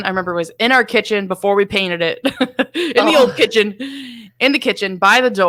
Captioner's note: laughs